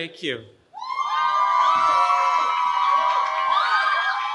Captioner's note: cheering